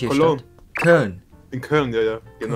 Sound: German

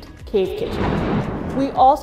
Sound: thunder rumbles

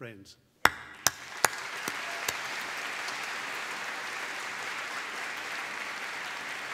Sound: applause

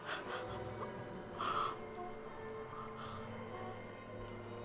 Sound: breath shaking

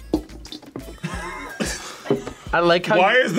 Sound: both laugh

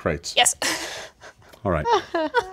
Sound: laughs

